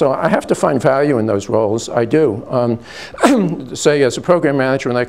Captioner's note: clears throat